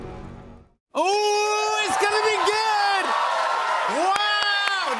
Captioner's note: cheers and applause